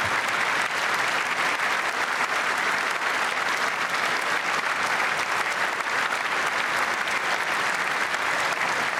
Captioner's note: applause